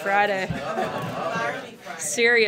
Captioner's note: laughter